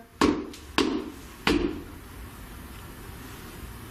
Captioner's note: stomping